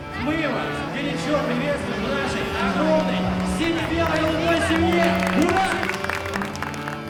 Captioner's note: applause